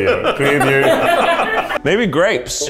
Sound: laughing

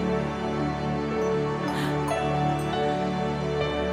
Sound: gasp

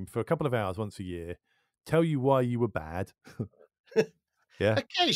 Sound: chuckles

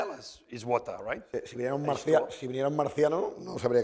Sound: speaking spanish

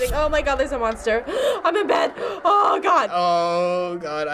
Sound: gasping

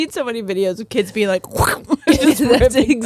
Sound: laughs

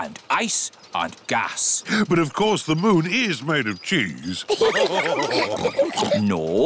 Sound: all laugh

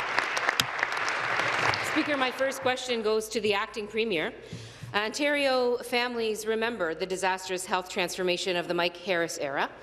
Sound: applause

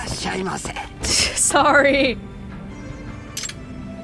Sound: laughs

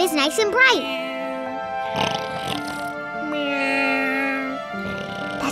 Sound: snoring

